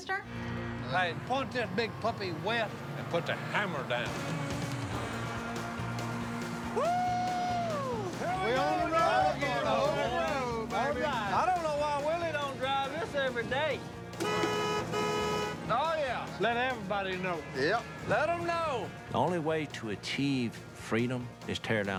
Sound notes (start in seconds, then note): 3.9 horn honks